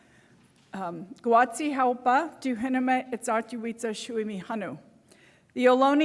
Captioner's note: non-english speech